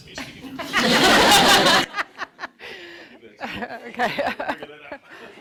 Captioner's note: audience laughing